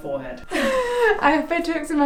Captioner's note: laughs